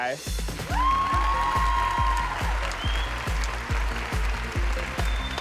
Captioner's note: cheers and applause